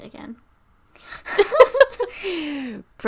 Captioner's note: both laughing